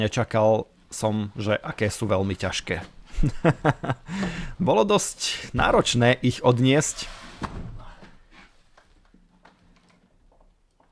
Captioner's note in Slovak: smiech